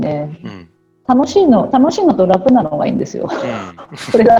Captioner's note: laugh